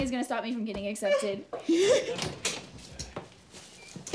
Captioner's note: Mom laughs